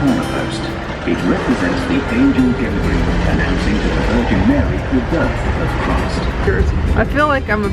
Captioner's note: vehicles rumbling